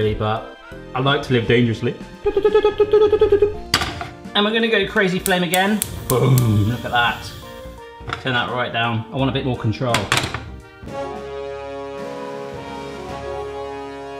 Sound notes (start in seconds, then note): 2.8 high pitched stuttering; 10.9 mediaeval horns